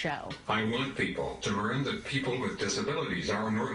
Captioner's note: voiceover